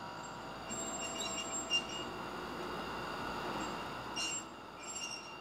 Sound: electric door buzzing; metal screeching; electric door buzzing; metal screeching

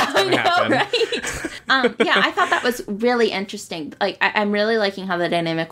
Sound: laughs

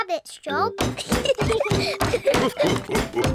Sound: laughter

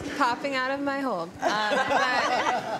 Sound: laughter

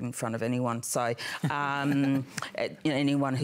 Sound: laughter

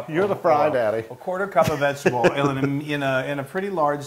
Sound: laugh

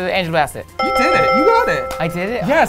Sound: bell dinging

